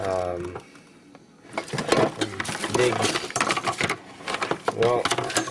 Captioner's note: dishes rattling